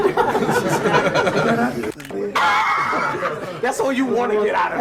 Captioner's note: laughing